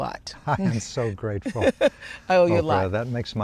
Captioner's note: laughs